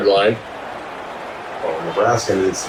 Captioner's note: crowd Noises